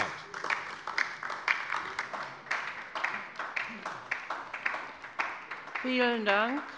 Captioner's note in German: Beifall bei der LINKEN